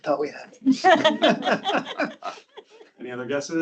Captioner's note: group laughing